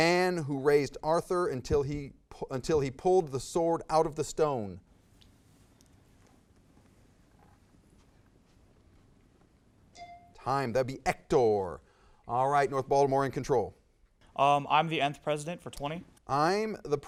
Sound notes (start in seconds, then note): 9.9 timer dings